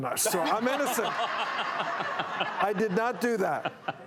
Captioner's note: audience laughs